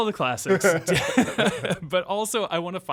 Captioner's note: laughing